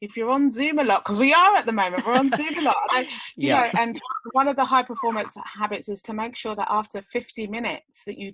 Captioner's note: laughs